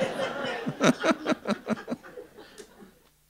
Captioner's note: laughter